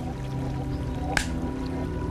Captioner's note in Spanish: Sonido de claqueta